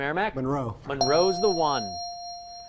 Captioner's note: ding